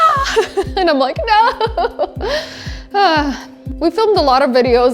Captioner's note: laughs